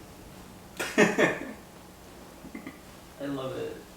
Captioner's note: laughs